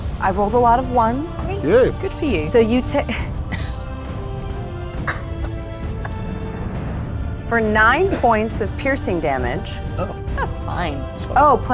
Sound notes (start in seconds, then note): 5.0 laughs